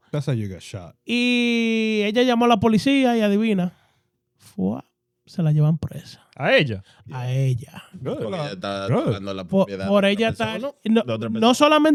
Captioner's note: speaking In Foreign Language